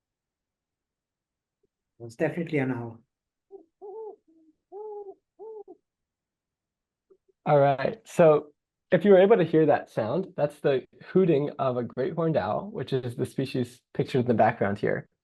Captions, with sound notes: [owl hoot] It’s definitely an owl. All right. So if you're able to hear that sound, that's the hooting of a great horned owl, which is the species pictured in the background here.